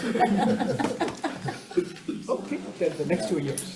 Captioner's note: committee laughs